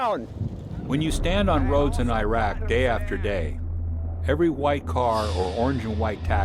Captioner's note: voiceover